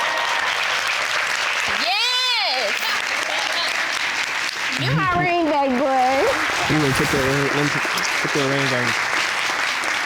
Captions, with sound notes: (AUDIENCE EXCLAIM) Yes! (AUDIENCE LAUGHING) You're my ring back boy! Let me fit that ring on you.